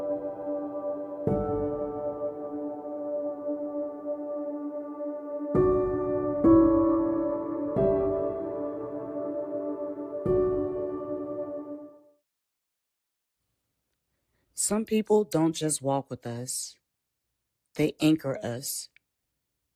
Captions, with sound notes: Some people don’t just walk with us. [pause] They anchor us.